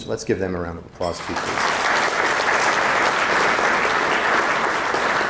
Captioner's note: audience applauding